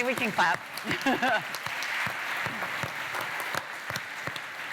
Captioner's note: applause